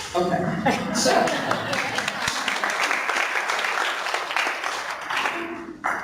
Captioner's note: laughing; clapping